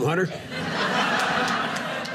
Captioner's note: audience laughing